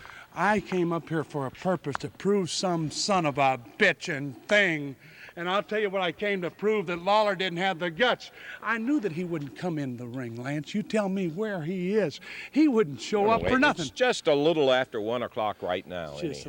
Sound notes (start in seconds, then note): none